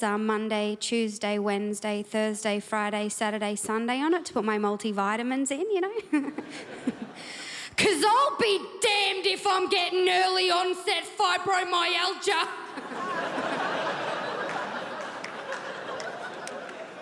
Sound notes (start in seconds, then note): 12.6 crowd laughs